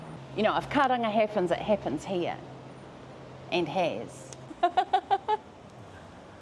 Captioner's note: laughs